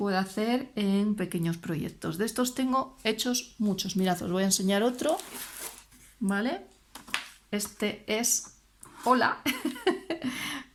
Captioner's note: laughter